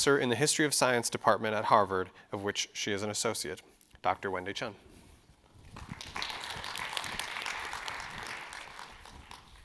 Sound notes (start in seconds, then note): 5.6 audience clapping